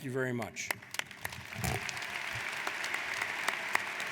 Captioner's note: applauding